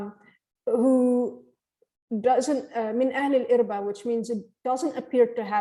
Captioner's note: line in Arabic